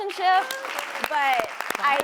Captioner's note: audience clapping